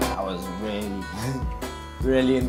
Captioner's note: heartily chuckles like a stoned hippie